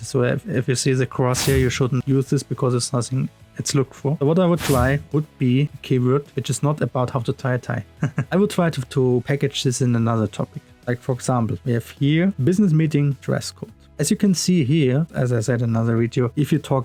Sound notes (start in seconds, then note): 8.0 laughs